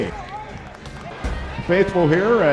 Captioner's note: arena Noise